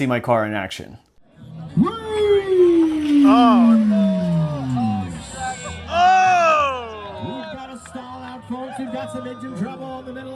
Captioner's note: crowd noises and announcer yelling "race!"